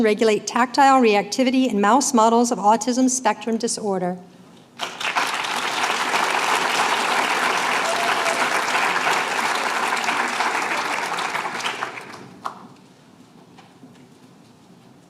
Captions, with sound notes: regulate tactile reactivity in mouse models of autism spectrum disorder. [APPLAUSE]